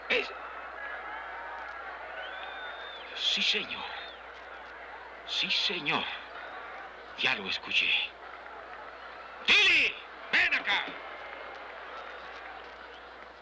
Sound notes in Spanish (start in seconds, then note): 9.0 vociferando